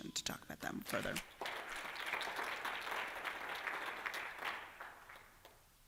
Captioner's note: applause